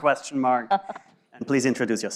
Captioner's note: laughs